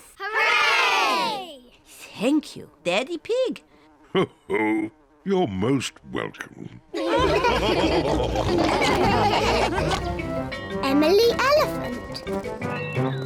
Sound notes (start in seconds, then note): 4.2 chuckles; 6.9 all laughing